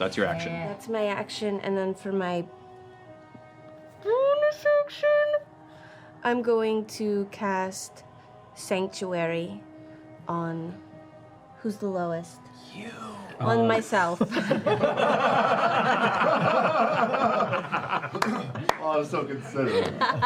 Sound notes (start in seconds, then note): 13.2 whispering; 14.1 laughter